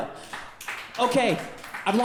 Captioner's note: audience clapping